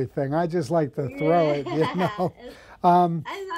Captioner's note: chuckles